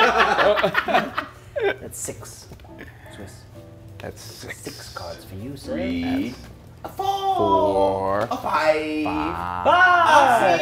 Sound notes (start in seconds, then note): 3.4 laugh